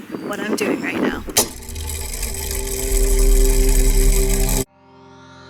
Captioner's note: mechanism whirring